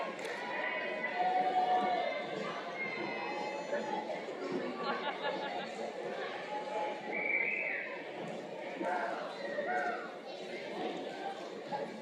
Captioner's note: cheers and Applause